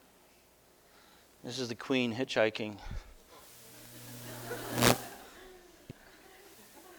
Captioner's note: audience: Laughter